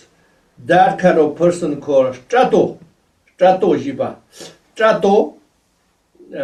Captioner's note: tibetan